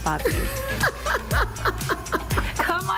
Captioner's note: laughs